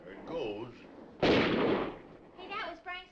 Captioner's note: guns firing